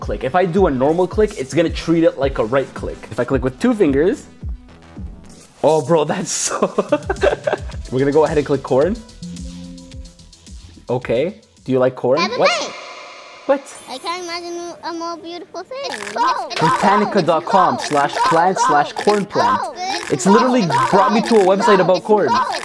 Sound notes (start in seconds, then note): 9.2 warning beeping; 16.0 corn chomping; 22.4 computer glitching